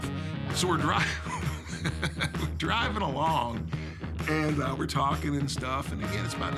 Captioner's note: laugh